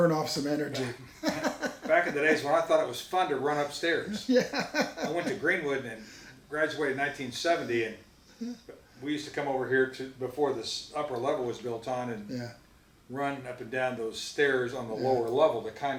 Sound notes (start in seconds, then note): 4.0 laughs